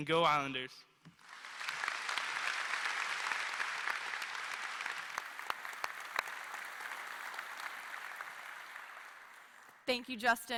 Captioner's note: applause